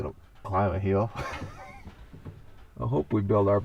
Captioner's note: laughing